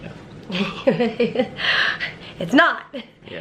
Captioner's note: laughter